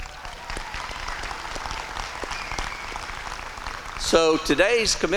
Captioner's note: applause